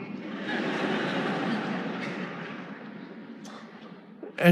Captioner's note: audience laughing